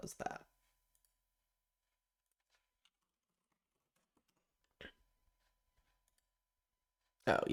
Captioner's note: silence